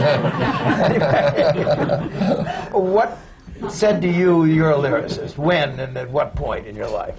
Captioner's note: laughter